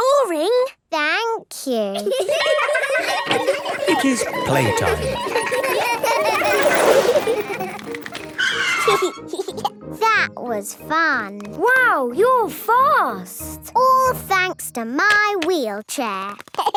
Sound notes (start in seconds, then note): 1.9 laughter; 2.3 school bell ringing; 7.1 brakes squealing; 7.1 giggling; 15.8 laughing